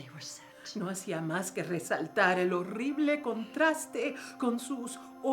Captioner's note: speaking in foreign language